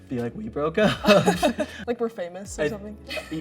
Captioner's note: both laugh